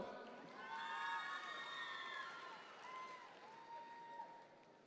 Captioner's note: audience members cheer